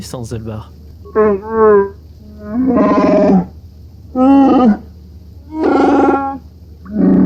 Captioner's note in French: en Shyriiwook